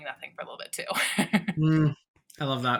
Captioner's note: chuckling